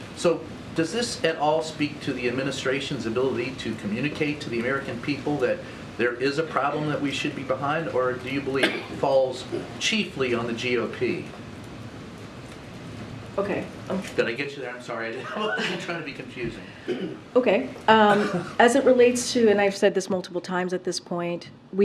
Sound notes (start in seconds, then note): 15.1 laughs